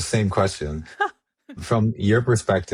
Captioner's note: chuckles